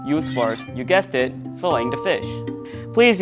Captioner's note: knife scraping